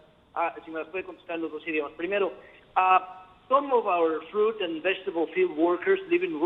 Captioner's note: speaking spanish